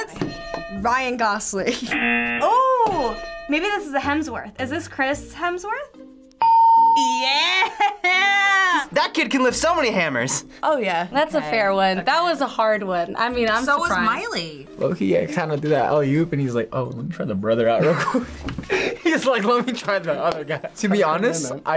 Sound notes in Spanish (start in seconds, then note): 1.7 suena la campana; 1.9 zumbador; 17.7 risas